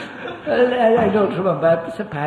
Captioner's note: laughter